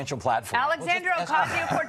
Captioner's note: laughter